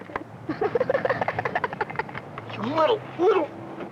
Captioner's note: laughing